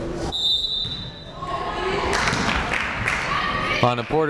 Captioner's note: whistle blaring